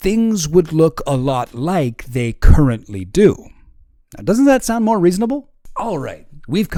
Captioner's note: regular voice